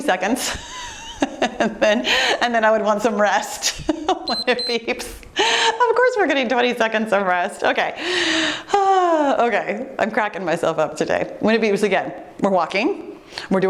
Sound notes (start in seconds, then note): 0.5 laughing heartily; 3.6 giggling; 4.2 timer beeps